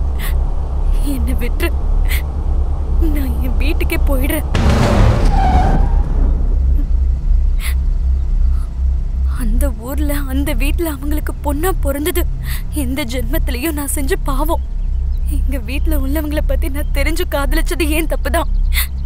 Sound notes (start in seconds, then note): 4.9 brakes squeal